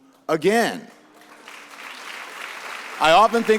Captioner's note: audience applauds